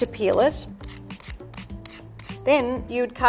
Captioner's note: peeler grinding on tumeric